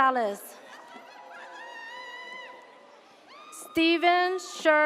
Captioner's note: audience cheers